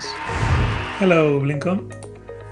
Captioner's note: cheering